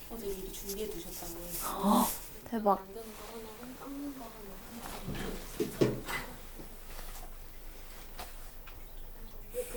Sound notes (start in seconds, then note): 2.4 excited